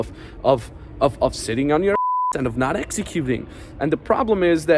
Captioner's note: beep